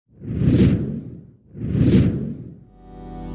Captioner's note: whooshing; light ambient music